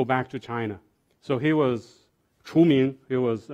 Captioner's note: speaking foreign language